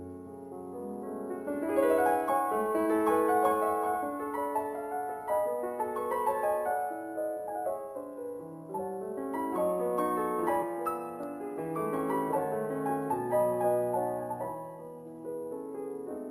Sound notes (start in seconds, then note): none